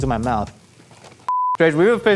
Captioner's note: high pitched beep